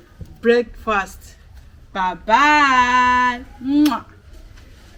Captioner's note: kisses